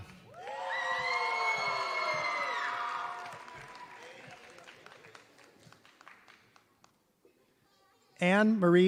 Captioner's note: applause